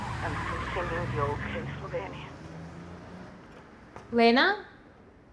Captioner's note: engine revving